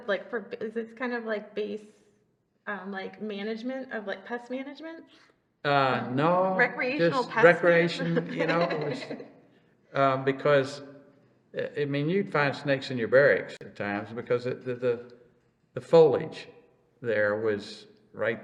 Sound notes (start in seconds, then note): 5.7 laughs